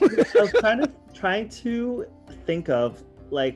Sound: laughs

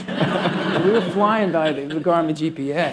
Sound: laughter

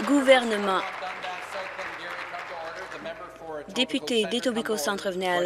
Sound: applause

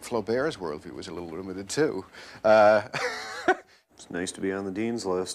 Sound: laughs

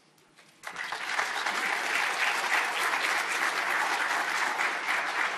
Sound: audience applauding

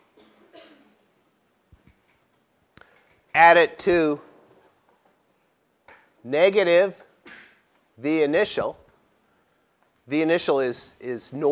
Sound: cough

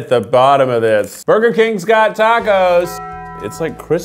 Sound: bell ringing

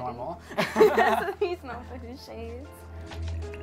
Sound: laughs

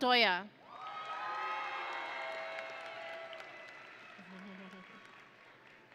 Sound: audience and graduates cheering

